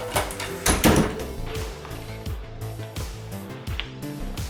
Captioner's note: door thudding